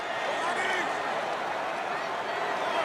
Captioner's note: crowd cheering